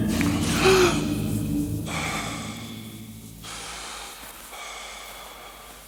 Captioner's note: Bernard breathing panting